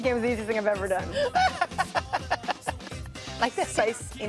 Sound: laughing

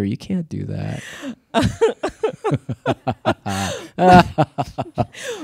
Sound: both laughing

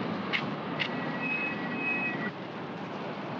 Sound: jeep brakes squeal

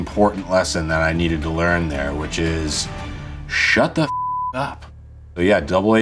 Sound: beeps

